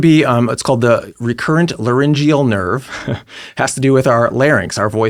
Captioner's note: chuckles